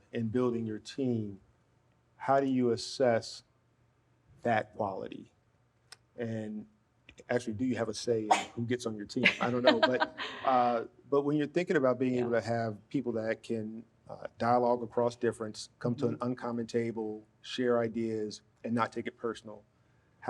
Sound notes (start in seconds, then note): 9.2 laughs